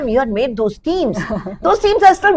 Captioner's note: laughs